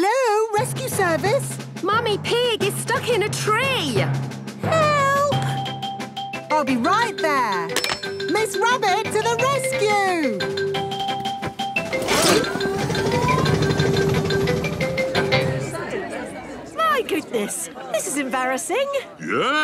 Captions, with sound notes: Hello, Rescue Service. - Mummy Pig is stuck in a tree. - Help! - I'll be right there. Miss Rabbit to the Rescue! (all murmuring) - My goodness, this is embarrassing.